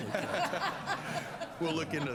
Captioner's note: laughter